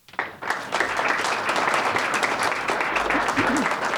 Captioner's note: audience applauding